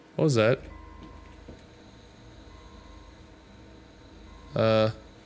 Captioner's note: air Hissing